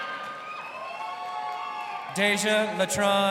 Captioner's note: crowd cheering